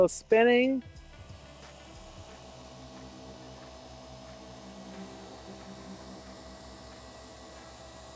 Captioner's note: motor whirring